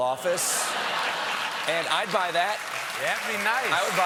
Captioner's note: laughter